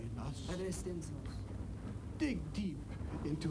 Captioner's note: speaks in foreign language